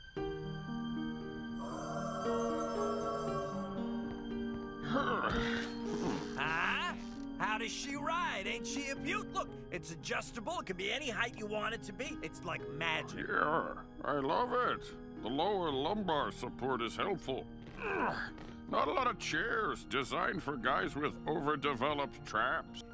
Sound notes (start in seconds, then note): 0.1 hopeful music; 4.8 sighs; 5.8 chair squeaking; 17.8 grunts